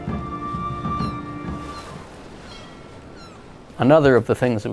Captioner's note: seagulls squawking